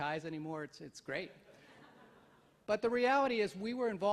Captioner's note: audience laughs